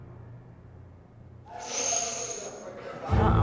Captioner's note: inhales sharply